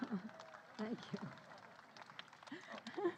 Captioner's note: laughter